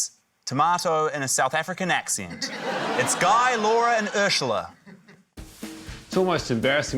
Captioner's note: laughter